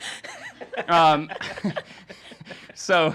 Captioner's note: laughing